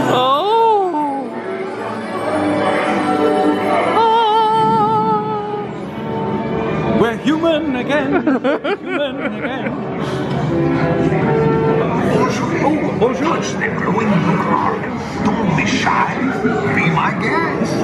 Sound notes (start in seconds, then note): 1.5 twinkling music; 8.0 laughs